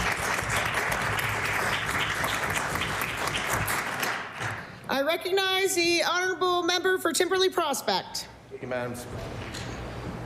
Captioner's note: applause